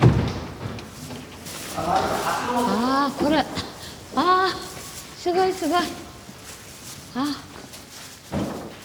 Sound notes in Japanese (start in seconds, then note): 3.2 日本語音声